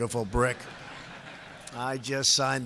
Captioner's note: laughter